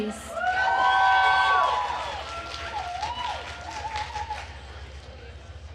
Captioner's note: attendees cheering and applauding